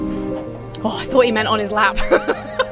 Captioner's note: Emma sighs; Emma laughs